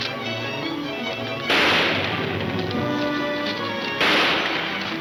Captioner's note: gunshots banging